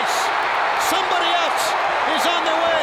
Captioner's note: crowd cheers